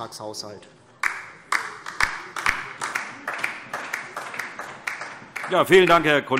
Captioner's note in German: Beifall DIE LINKE